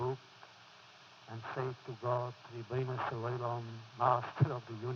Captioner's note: foreign language